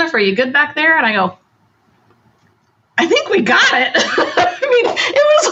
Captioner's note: laughs